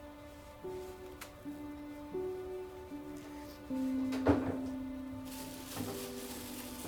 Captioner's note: toilet paper ripping; trash can clanking; bag rustling; sentimental music